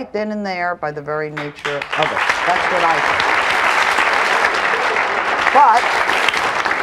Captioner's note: audience applauds